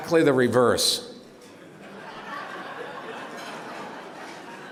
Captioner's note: laughter